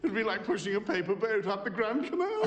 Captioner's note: laughing